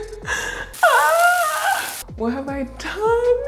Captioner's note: shrieking